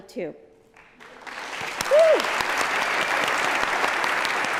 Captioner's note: applause